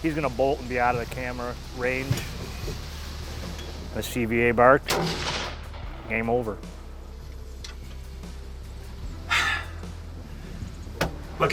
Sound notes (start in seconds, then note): 4.9 gunshot firing; 9.5 sighs